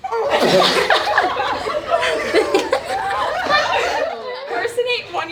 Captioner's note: laughing